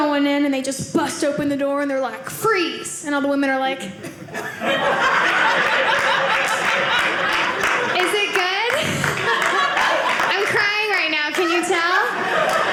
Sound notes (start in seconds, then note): 4.1 audience laughing